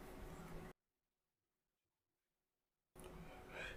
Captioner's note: silence